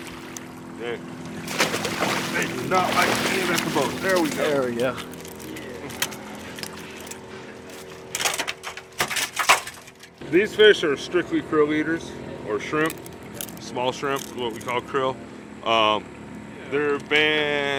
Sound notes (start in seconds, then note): 1.2 fish splashing; 7.7 fish thrashing